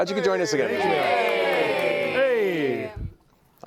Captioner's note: cheering